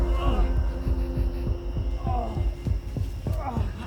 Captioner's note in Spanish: Jonathan gruñe; Jonathan gime